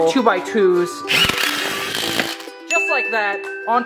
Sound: drill whirring

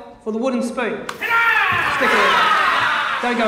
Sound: Dragonites yelling

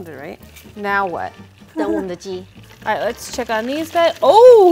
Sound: speaking in mandarin

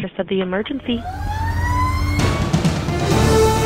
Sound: sirens blaring; intense music

